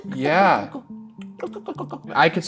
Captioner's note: Ryan imitates clicking